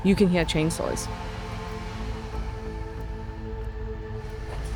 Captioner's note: chainsaw whirring